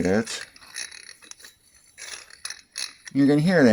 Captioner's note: grinding sound